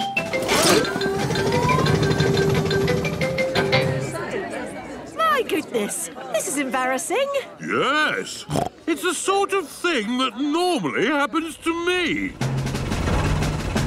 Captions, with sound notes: (all murmuring) - My goodness, this is embarrassing. - Yes! (snorts) It's the sort of thing that normally happens to me.